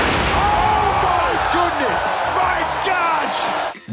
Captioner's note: explosion